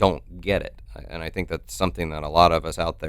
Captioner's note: none